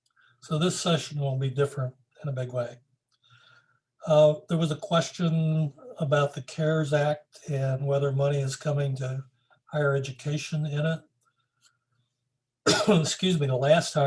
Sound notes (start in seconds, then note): 12.6 coughs